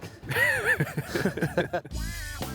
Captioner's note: chuckling